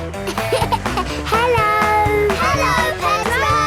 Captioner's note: laughing